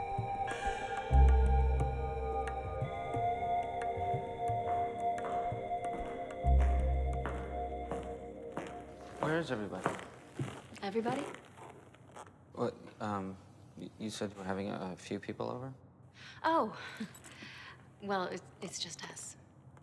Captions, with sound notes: (footsteps approaching) (latex rubbing) - Where is everybody? - Everybody? - What, um, you said you were having a few people over? - Oh, well it's just us.